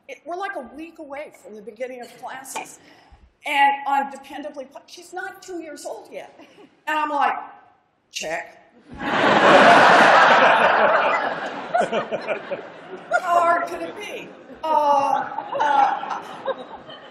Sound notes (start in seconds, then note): 8.8 laughter